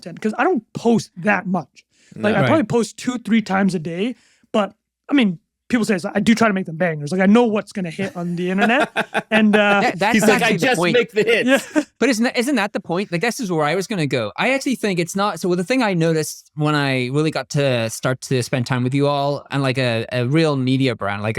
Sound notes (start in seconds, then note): 8.0 laughing